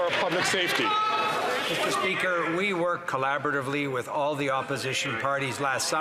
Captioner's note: some Applause